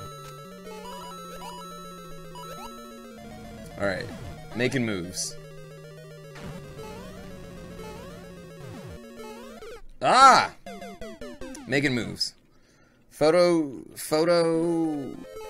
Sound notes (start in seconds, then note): 9.4 death audio